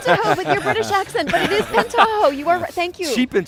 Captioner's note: laughter